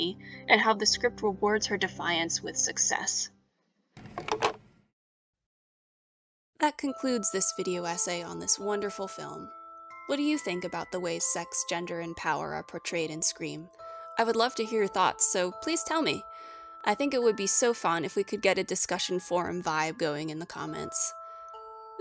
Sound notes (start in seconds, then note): 4.0 phone being hung up; 6.7 normal voice-over